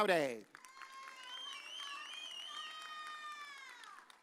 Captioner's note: audience cheers